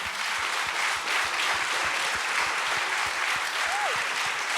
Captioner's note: applause, cheers